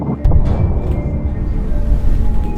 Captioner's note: muffled explosion